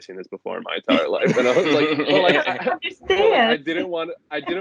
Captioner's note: laughter